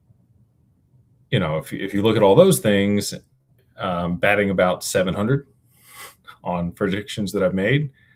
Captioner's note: snorts